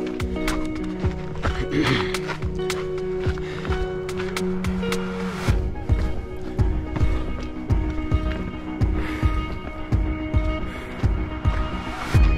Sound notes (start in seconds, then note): 1.5 clearing throat; 3.2 panting